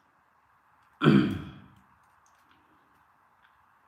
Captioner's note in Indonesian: berdehem; batuk